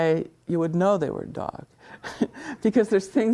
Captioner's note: laughs